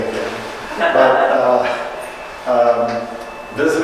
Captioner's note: audience chuckling